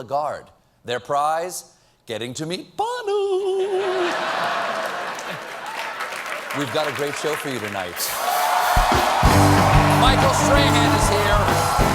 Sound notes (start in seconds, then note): 3.6 laughter; 4.5 applause